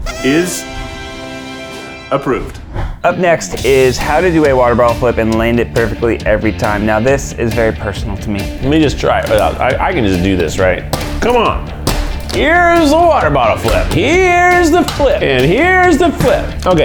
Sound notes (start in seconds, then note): 0.0 party horn sound; 2.9 upbeat music; 11.6 plastic bottle flap sound